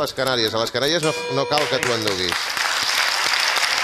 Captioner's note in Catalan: gong